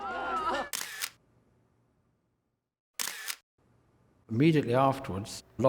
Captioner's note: shutter clicking